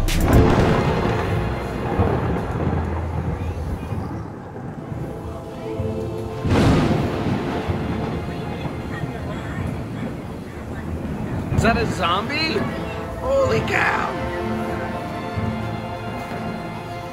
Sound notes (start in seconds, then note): 1.6 spooky music; 6.7 thunder crashing